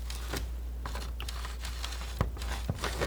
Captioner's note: scratching